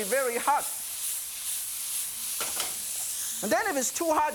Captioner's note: sizzling